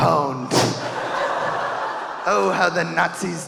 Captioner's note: audience laughing